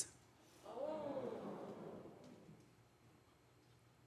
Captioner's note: audience ooh's